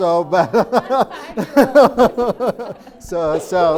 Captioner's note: laughing